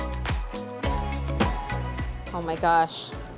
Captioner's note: upbeat music; cleaver thuds